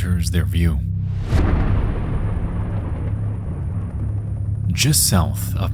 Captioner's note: thunder crashes